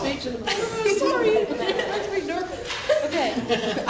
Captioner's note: laughing